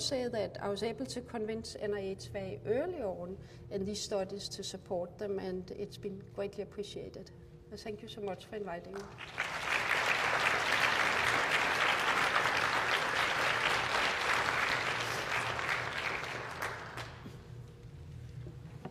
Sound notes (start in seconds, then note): 8.9 applause